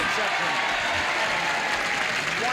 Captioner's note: cheers and applause